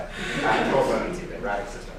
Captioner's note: laughing